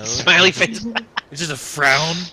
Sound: laughter

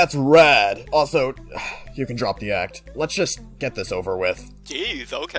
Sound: sigh

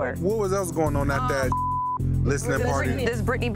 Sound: beep

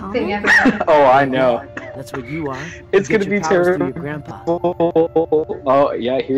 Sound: laughs; coughs; weird audio glitch?

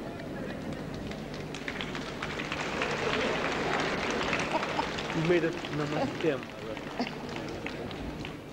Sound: clapping

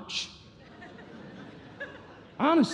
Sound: congregation laughing

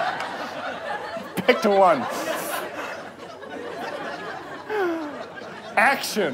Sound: trying not to laugh

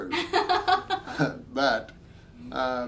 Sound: both laughing

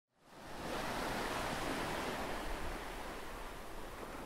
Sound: waves crashing

